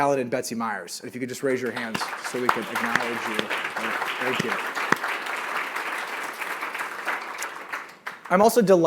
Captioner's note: applause